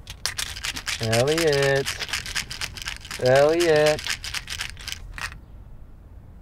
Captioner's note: rattling